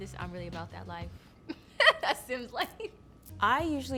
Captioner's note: laughs